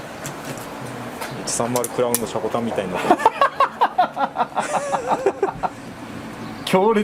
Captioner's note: laughs